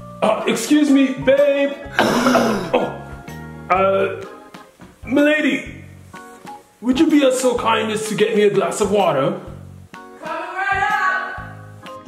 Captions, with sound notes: Oh excuse me, Babe! [Cough] Uh Ma Lady Would you be so kind as to get me a glass of water? Coming right up!